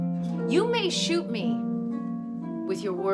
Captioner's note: woman 4 speaking